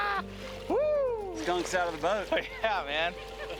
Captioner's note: laughs